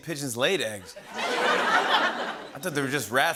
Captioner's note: laughter